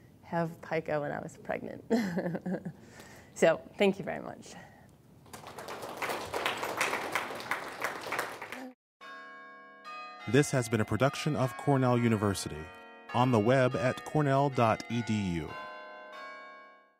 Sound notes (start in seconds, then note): 2.0 laughs; 5.2 applause; 9.3 bells chiming